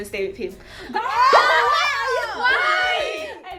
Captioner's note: screams